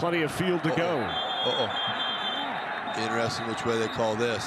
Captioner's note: referee blows whistle